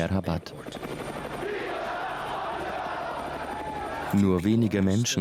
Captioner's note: chanting in a foreign language